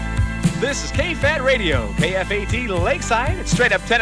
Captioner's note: voiceover